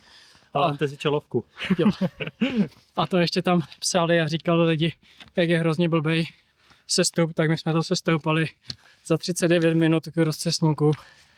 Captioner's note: laughs